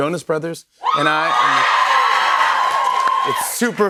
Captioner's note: cheers and applause